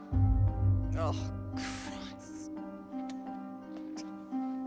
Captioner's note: cries